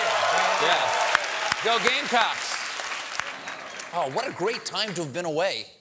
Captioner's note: applause